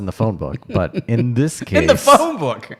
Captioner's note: laughing